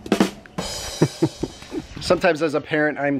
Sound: laughs

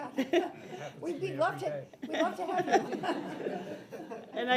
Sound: audience laughs

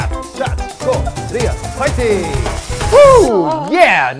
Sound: chanting in foreign language

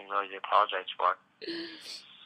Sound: crying

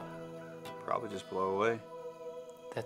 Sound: voiceover

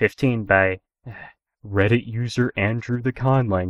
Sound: sigh

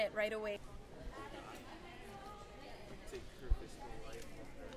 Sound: crowd talking

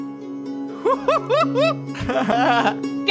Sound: chuckles

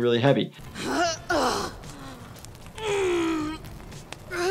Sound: moaning in pain

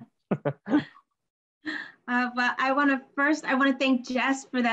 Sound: all laughs

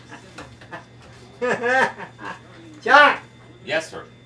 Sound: laughing

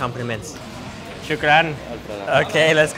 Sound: speaking in foreign language

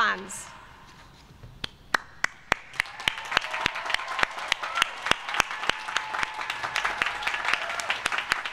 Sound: applause

